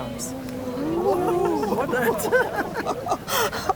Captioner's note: audience gasps